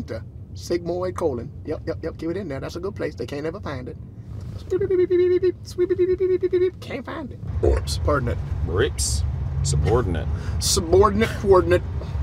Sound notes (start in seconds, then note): 4.7 imitating metal detector